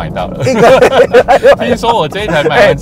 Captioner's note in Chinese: 哈哈哈哈